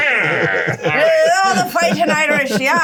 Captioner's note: players laughing